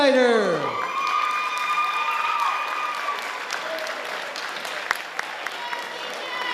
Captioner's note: audience applauding and cheering